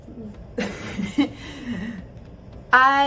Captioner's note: chuckles